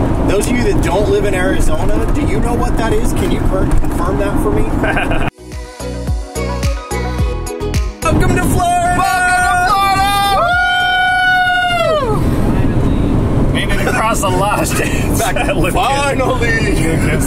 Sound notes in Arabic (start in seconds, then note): 4.8 يضحك; 5.2 موسيقى مبهجة